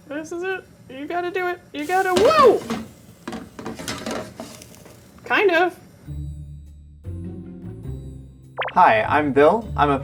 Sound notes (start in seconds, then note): 1.8 pan clattering; 6.0 soft bright music